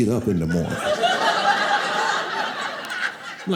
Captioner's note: audience laughing